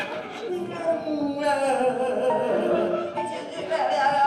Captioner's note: cackling strangely; laughing in deep voice